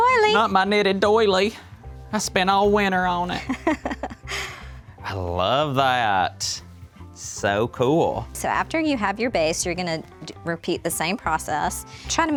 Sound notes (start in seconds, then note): 3.4 laughs